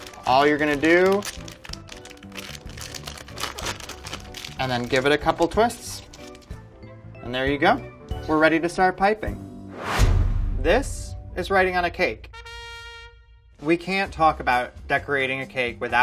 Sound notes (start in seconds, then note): 1.5 paper rustling; 9.7 whooshing; 12.2 trumpet blares